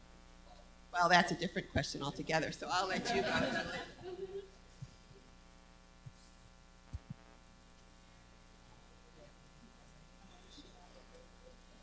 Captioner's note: laughter